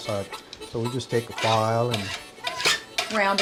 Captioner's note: scraping sound